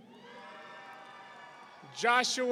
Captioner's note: audience cheering